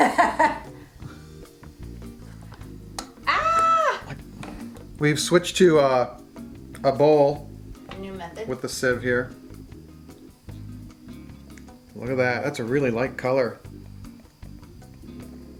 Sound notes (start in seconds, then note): 0.0 laughter; 3.2 screams